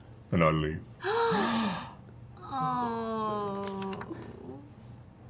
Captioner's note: gasping